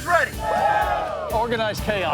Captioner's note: team cheers excitedly